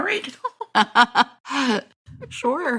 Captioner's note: laughter